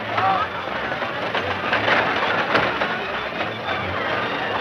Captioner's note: crowd chattering